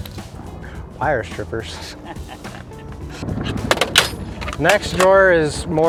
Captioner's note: man laughs